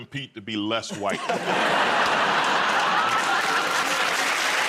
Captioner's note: laughter; cheers and applause